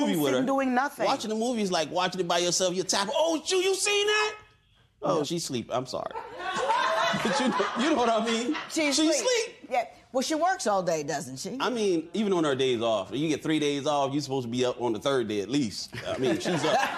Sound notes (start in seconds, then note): 6.1 laughter